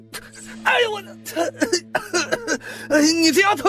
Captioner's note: cough